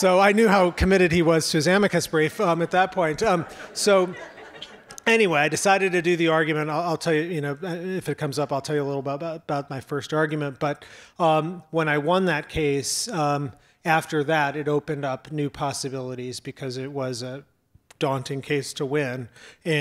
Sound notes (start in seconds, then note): 3.4 audience laughs